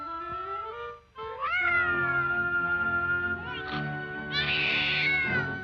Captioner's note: baby wailing